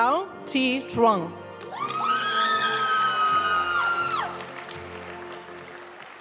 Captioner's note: audience cheering and applauding; graduation music